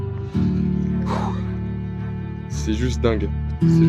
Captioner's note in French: soupir